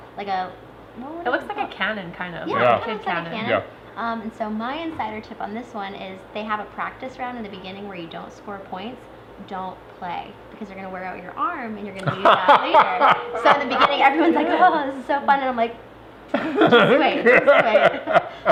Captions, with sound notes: like a-- - It looks like a canon, kind of. - Yeah! - Yeah. - Yeah, it kinda looks like a canon. So my insider tip on this one is: they have a practice round in the beginning where you don't score points; don't play. Cause you're gonna wear out your arm, and you're gonna need that later! (laughter) So in the beginning everyone is like, oh this is so fun, and I'm like, just wait, so yep.